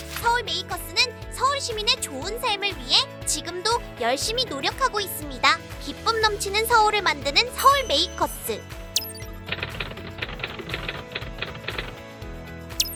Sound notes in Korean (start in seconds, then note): 9.4 타이핑 소리